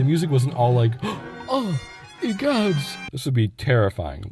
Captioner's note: gasp